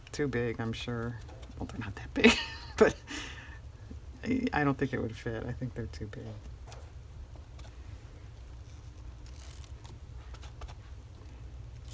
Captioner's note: laughs